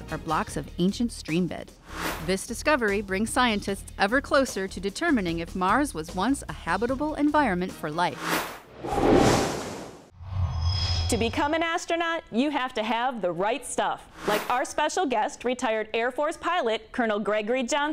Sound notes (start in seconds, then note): 8.1 sound Effects